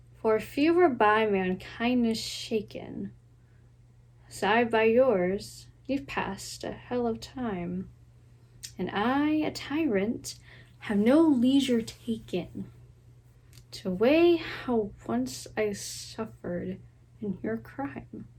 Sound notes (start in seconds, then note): none